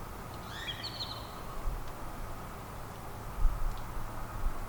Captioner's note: birds chirping